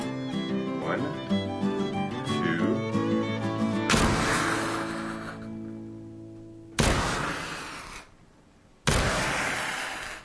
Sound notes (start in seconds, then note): 3.9 flash powder explodes; 6.8 flash powder explodes